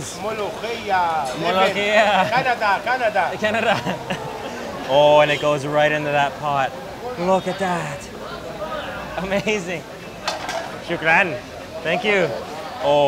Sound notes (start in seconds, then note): 4.3 laughs; 9.3 speaking in foreign language